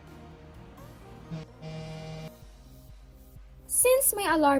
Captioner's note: alarm intensifies